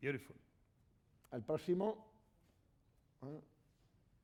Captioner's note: speaking spanish